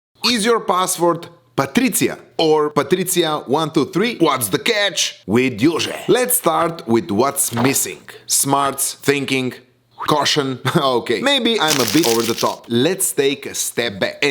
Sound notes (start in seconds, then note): 11.6 crumples paper; 11.6 scoffs